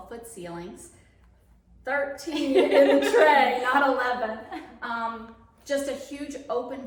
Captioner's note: laughing